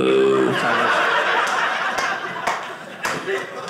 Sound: audience laughing

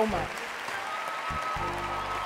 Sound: cheering and applause

